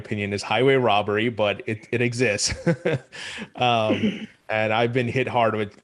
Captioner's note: laughs